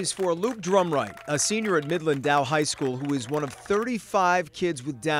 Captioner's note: applause